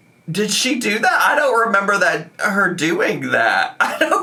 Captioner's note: laughing